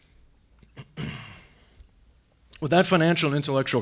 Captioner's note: clears throat